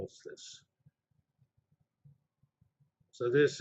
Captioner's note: pause